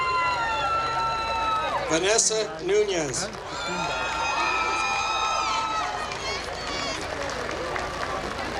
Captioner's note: applause